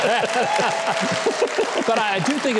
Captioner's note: audience applauding